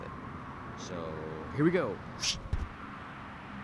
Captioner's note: whoosh